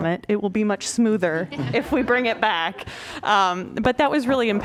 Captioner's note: laughter